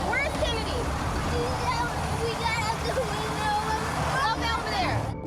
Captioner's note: speaking tearfully